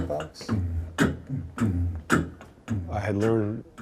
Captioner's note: beatboxing